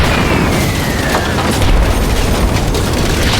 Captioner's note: explosion